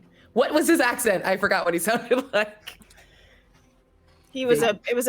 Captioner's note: laughs